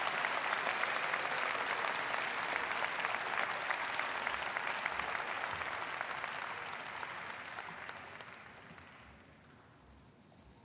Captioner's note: applause